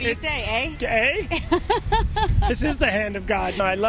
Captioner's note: laughs